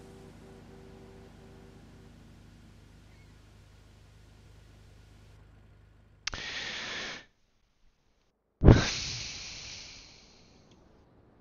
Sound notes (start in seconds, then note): 6.2 breathing in; 8.7 breathing out